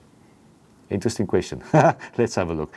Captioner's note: laughs